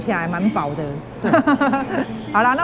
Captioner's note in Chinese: 哈哈哈